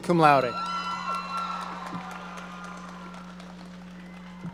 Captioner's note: audience cheering